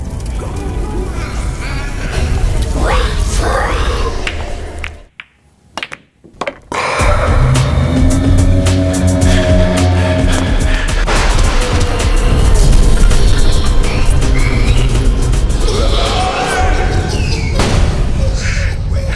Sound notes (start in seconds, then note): 4.2 sound of glass eyeballs rolling around; 8.2 monster howl, crash, twisted child's laugh, holler